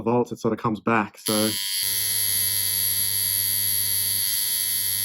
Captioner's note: machine whirring